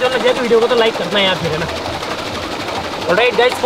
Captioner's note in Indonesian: Suara turbin